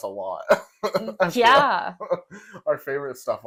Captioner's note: laugh